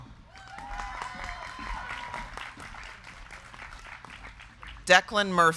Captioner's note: crowd cheering; crowd clapping